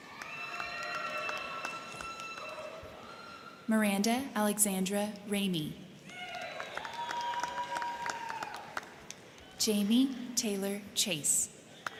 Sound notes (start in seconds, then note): 0.0 crowd clapping; 0.0 crowd cheering; 6.0 crowd cheering; 6.1 crowd clapping; 11.7 crowd cheering; 11.7 crowd clapping